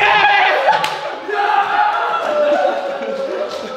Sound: laughing

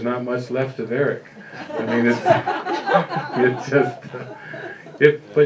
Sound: laughter

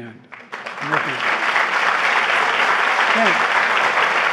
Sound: applause

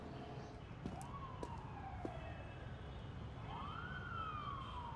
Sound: sirens whoop

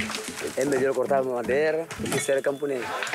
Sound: Portuguese spoken audio

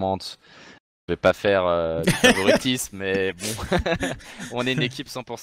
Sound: laughs

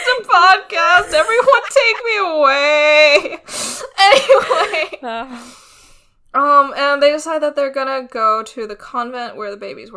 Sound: laughing; laughs

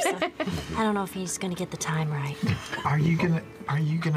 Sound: laughs

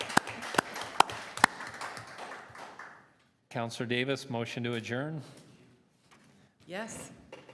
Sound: applause

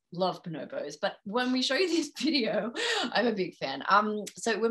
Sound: laughs

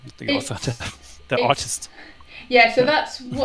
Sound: laughing

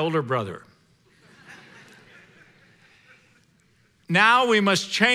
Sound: congregation laughing

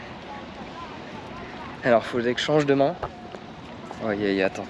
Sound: speaking in foreign language

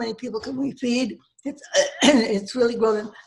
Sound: coughs

